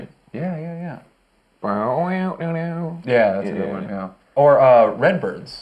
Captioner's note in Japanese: 鼻歌